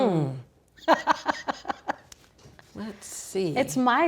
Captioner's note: laughing